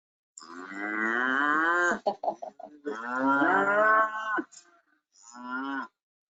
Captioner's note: cows moo; laughing